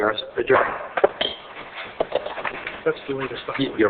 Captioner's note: gavel bangs